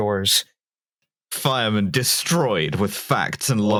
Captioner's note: announcer voice